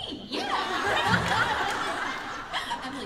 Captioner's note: laughter